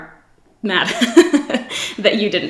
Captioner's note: laughs